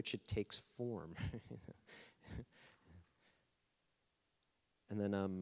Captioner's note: laughing